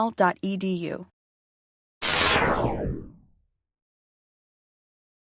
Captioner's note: zap